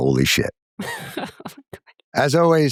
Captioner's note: laughter